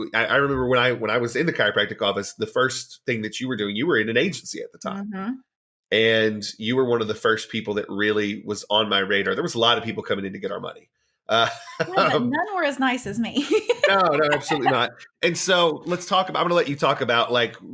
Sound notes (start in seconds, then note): 13.4 laughing